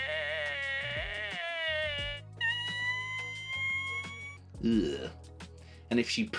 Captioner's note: fart sounds and moos